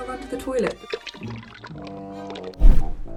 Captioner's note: viscous liquid pours; air whooshes